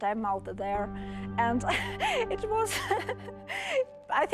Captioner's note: chuckling